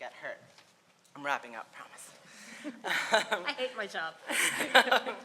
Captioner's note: laughs